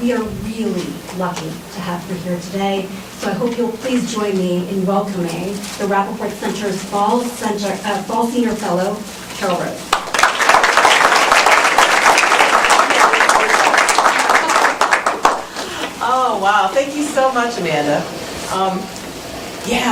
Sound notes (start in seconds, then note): 9.9 applause